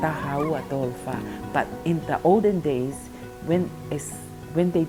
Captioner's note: speaks in foreign language